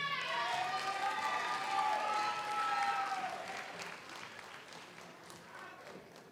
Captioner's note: audience cheers; audience applauds